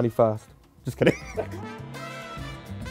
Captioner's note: laughs